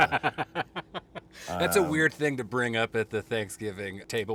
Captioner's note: laughing